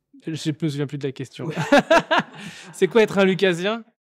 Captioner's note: awkward silence; general laughter